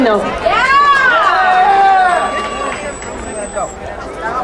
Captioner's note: crowd cheering